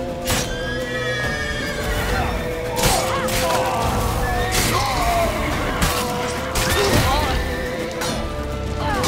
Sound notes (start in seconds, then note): 0.4 horse neighs; 4.5 groan, scream